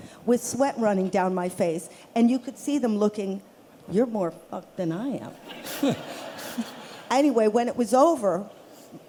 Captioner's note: laughter